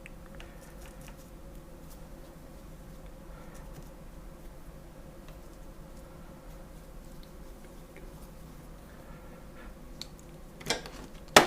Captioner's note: silence